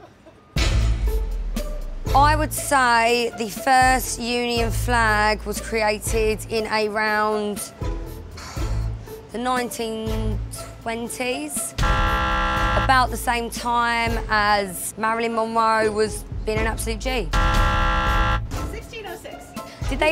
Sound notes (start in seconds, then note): 11.8 buzzer; 17.3 buzzer